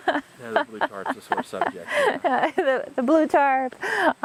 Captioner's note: laughter